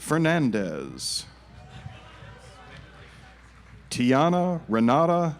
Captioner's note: audience applauds